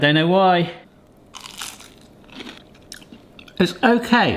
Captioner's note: chicken crunching